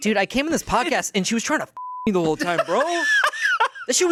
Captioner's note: beep